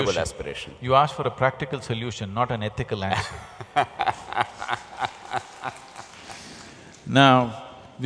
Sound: few laugh

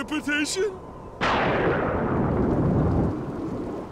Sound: thundering

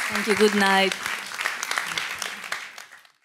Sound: audience applause

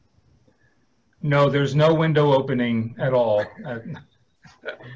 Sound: laughs

